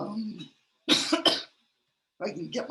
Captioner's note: coughs